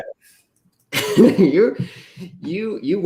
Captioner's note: laughter